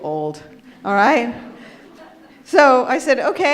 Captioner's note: audience laughs